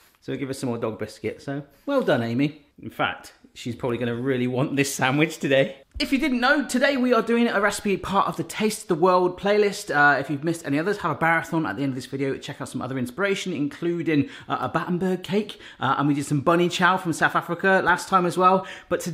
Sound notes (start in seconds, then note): none